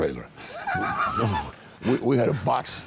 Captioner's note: laughing